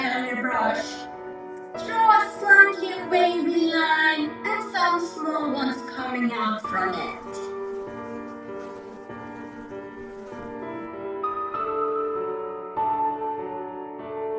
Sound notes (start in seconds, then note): 7.0 fly buzzing